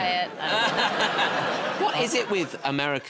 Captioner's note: laughter